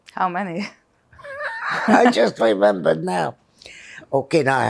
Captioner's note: laughing